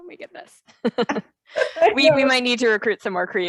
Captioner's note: laughing